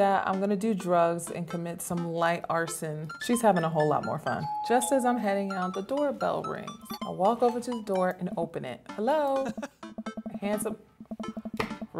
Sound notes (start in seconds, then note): 3.1 doorbell rings